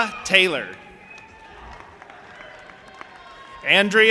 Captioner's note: audience applauding and cheering